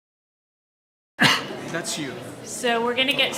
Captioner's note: coughs